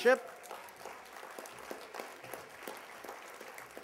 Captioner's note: applause